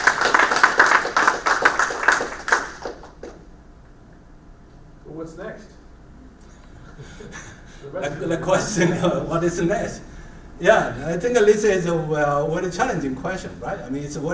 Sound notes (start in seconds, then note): 3.1 applause; 6.6 laugh